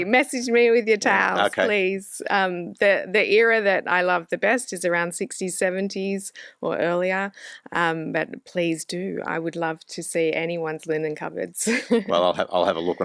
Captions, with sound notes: Message me with your towels, please. - Okay. - The era that I love the best is around '60s, '70s or earlier. But please do. I would love to see anyone's linen cupboards. (laughs) - Well, I'll have a look